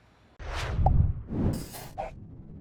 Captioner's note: swoosh Sound